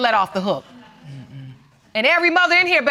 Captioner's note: audience murmuring in agreement